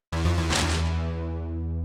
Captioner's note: bag rustles